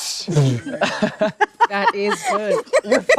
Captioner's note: laughing